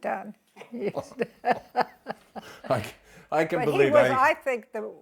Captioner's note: both laughing